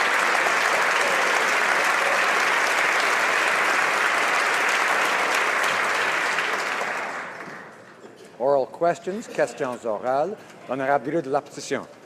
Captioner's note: applause